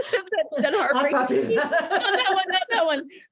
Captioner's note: laughing